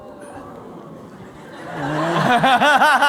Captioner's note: laughter